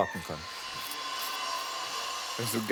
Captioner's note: machine drone